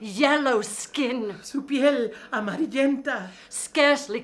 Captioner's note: speaking in foreign language